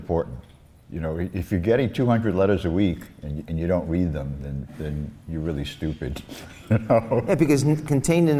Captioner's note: laughs